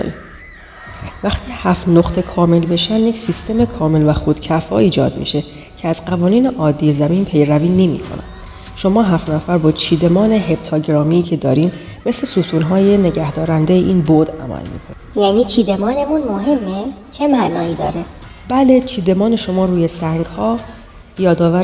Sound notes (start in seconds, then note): 7.5 vibration